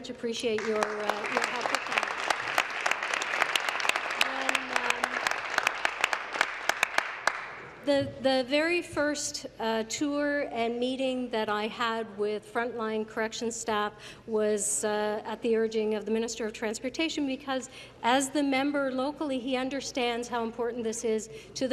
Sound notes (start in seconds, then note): 5.7 applause